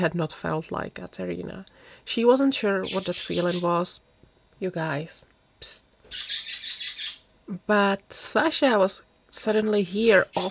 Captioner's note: budgie chatter